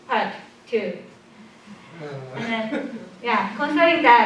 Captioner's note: laughter